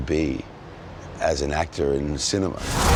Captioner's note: car tires screeching